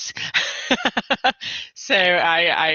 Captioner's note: laughs